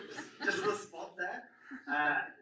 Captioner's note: audience laughs